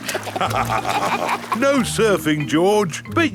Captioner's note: both laugh